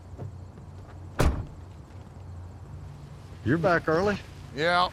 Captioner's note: door thuds